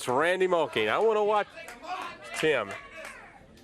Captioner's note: crowd cheering